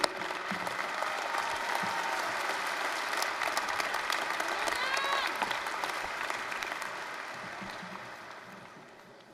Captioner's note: applause, cheering